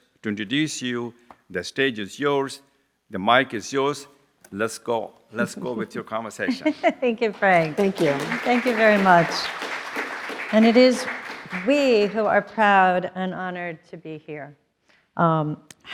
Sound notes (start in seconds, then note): 6.4 laughs; 7.2 applause